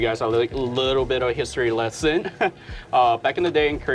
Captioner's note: chuckles